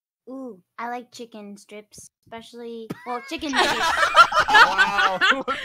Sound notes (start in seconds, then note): 3.0 laughter